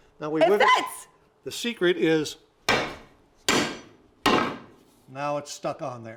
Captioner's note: banging